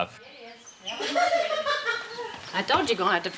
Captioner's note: woman laughing